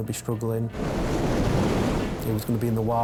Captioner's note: waves roaring